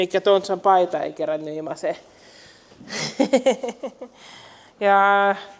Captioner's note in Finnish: naurua